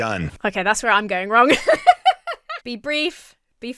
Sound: laughs

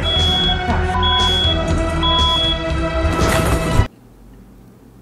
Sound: smoke detector beeping

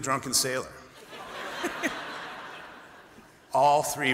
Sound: laughter

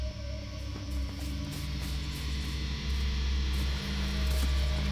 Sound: fast foot steps

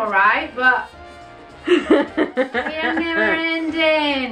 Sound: laughs

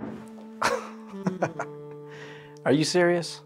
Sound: Christian chuckles

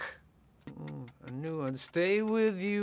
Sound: timer ticking

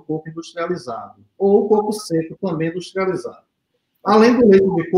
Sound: speaks portuguese

